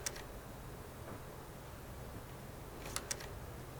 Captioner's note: none